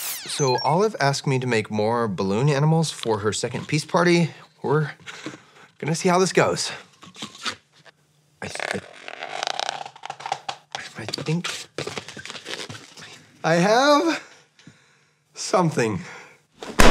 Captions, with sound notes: - So Olive asked me to make more balloon animals for her second peace party. We're going to see how this goes. (balloon squeaks) I have... Something.